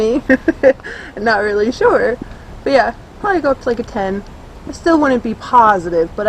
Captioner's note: laughs